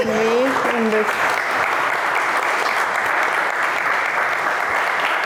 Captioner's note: applause